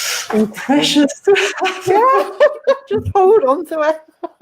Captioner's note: both laughing